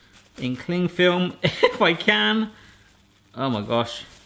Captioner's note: laughing